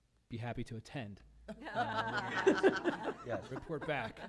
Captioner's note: laughs